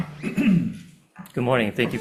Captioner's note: speaker clearing throat